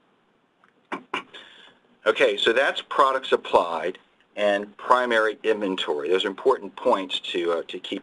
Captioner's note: clears throat